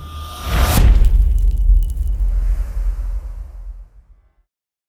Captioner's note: impact